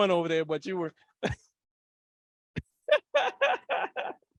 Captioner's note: laughing